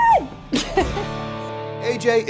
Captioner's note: laughs